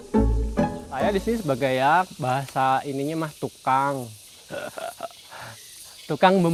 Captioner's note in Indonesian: tertawa